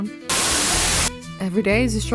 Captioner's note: Static